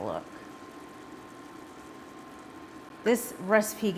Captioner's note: sauce simmering